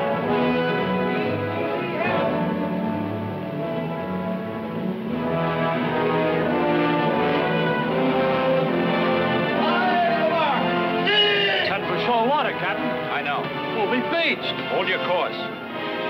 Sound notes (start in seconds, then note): 11.0 man yelling